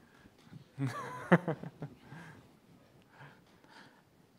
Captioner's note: laughing